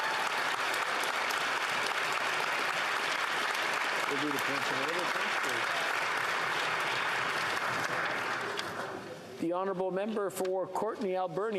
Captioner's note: applause